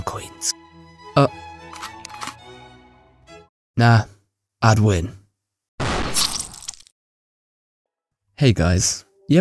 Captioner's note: he says, in french accent